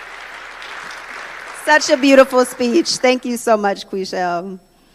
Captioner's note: applause